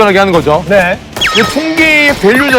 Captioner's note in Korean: 탕탕 탕탕